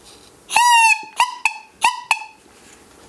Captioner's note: high, droning sounds